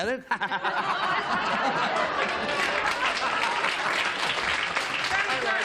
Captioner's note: laughter